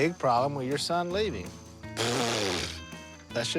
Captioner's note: blows raspberry